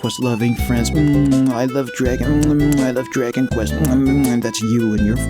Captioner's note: love-making noises